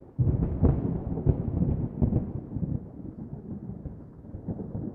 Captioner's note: thunder